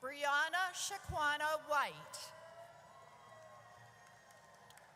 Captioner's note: audience cheers